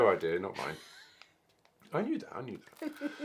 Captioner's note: snickers